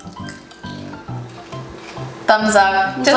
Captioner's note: popcorn crunching